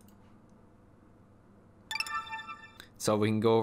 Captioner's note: ding ding ding